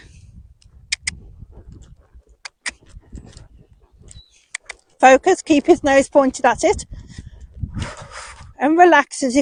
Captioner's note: click click